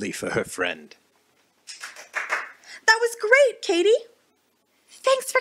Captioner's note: clapping